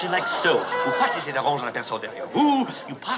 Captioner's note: speaking French